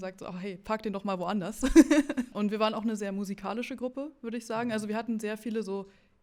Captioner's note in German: gelächter